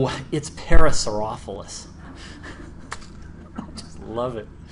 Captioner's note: laughter